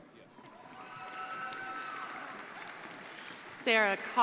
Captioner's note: crowd applauding